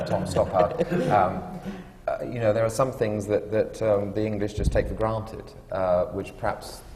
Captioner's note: laughter